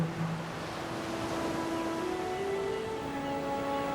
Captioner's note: waves crashing